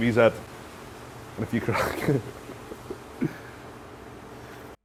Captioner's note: laughter